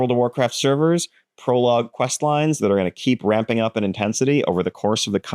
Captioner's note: none